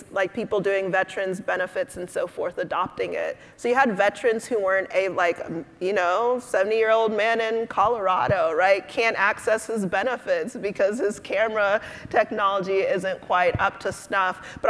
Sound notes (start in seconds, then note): none